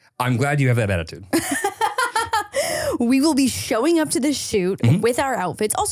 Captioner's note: laughs